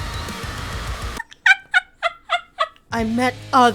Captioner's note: laughter